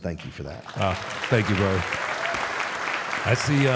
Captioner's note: audience applauding